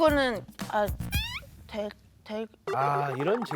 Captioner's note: reluctantly